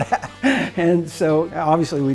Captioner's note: laughter